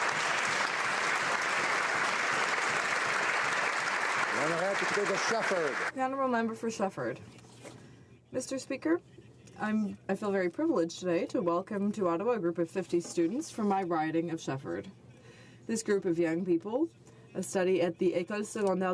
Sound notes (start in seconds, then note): 1.6 some Applause